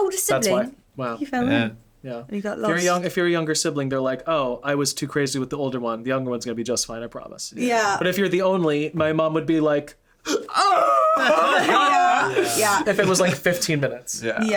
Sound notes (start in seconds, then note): 10.3 wailing